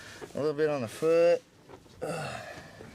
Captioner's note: groans